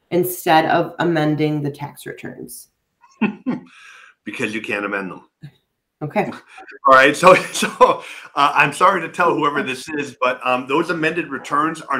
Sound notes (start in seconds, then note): 3.1 chuckling; 6.3 laughing